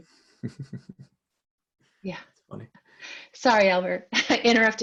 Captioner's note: chuckling